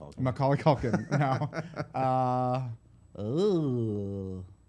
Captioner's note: laughter